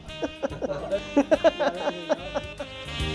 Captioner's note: laughter